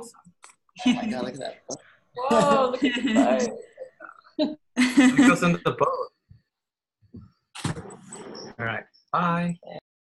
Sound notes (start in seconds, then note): 2.2 laughter and overlapping chatter